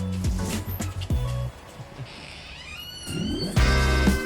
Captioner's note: door creaking; bright music